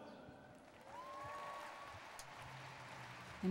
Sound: cheering

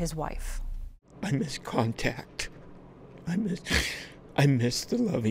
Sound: sobs

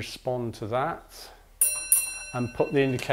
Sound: a bell sounds twice

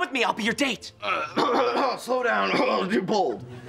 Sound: feigns coughing

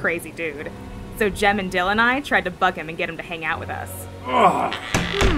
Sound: door closes

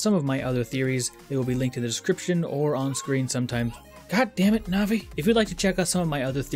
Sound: interrupted by navi ringtone

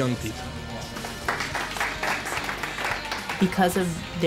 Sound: applause

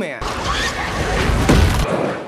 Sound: smack; Crunch

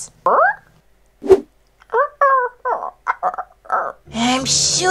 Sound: confused whimpers

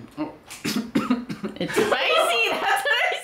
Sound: coughs

